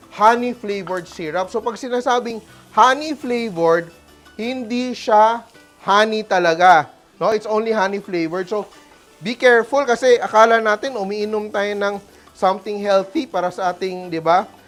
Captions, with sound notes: honey-flavored syrup, -- so, when you say -- [Sizzles] honey-flavored -- [Sizzles] [Sizzles] it's not [Sizzles] [Sizzles] real honey. [Sizzles] [Sizzles] Right? It's only honey-flavored, so -- because, for all we know, we are drinking -- something healthy for our -- right?